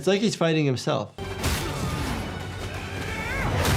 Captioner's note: grunting